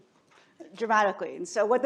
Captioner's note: none